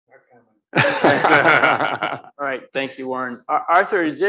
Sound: audience laughs

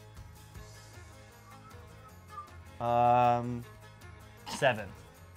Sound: tuneless whistling

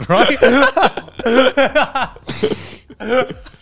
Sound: all laughing

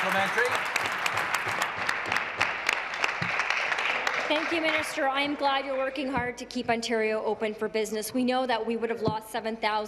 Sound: applause

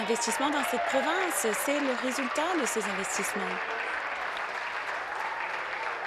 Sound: applause

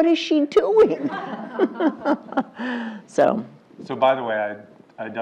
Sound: laugh

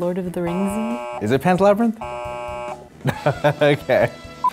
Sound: buzzes; laughs

